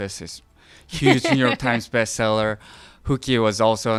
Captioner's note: laughing